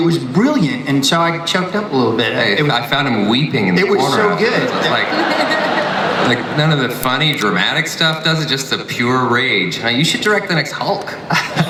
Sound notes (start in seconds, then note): 5.7 audience laughs